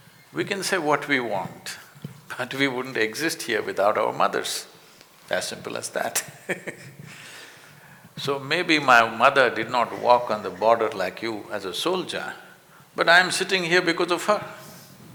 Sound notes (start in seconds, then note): 1.9 laughs